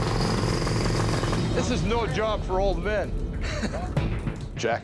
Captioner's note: chuckles